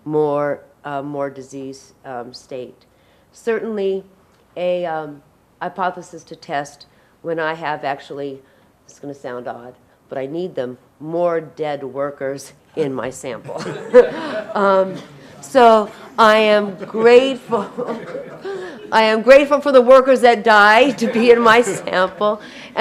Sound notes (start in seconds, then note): 13.5 audience laughing; 16.6 laughs